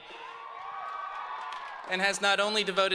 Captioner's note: all cheer